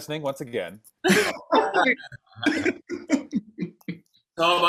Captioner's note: laughing